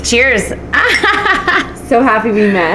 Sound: laughs

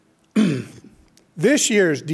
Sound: clears throat

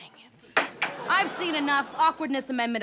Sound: gavel banging

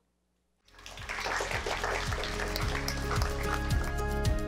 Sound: crowd applauds; upbeat guitar music

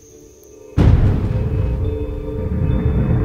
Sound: thunder rumbles

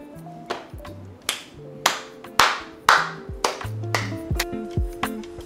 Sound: clapping; upbeat music

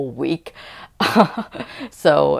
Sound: laughter

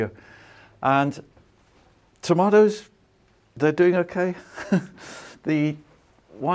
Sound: chuckles

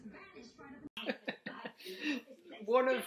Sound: laughs

